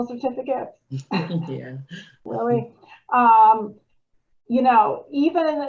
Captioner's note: chuckles